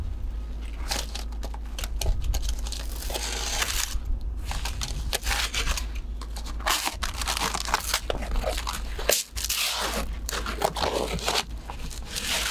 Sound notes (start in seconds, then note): 2.4 blade scraping